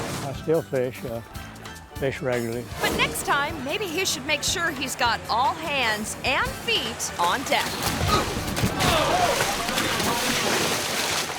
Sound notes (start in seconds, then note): 6.3 splashes; 7.5 fish splashes; 8.7 fishermen yell; 10.0 fish splashes